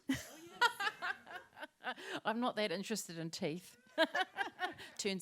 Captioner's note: laughter; laughter